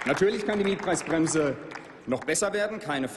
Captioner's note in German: Applaus